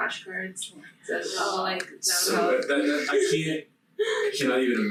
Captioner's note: group chattering